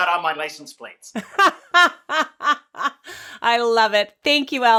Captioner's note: laughing